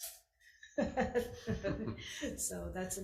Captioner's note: brunette lady laughing